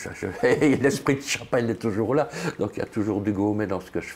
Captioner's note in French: rire